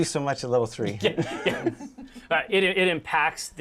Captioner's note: laughter